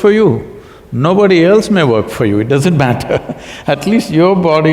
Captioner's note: laughs